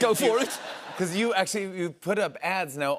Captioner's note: laughter